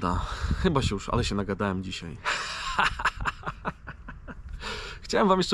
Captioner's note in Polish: śmiech